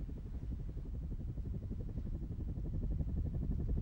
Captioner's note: helicopter whirs